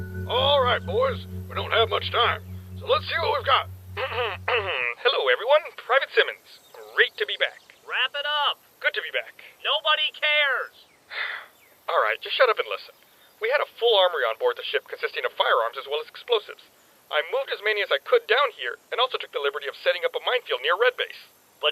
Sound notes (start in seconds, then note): 4.4 clears throat; 11.1 sigh